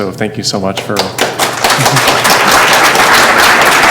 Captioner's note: applause